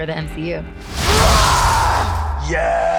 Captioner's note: yelling